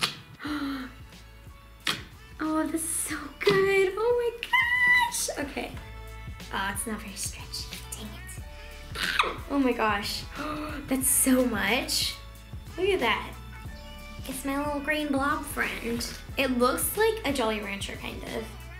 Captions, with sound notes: (sploshing) (gasping) (sploshing) Oh, this is so good! Oh my gosh! Okay. Aw, it's not very stretchy, dang it! (scream) Oh my gosh! Whoa, that's so much. Look at that! It's my little green blob friend. It looks like a Jolly Rancher, kind of.